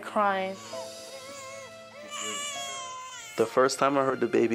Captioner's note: baby cries